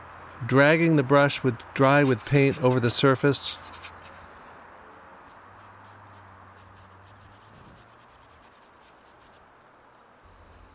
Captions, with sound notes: dragging the brush dry with paint over the surface. (bristles scratching)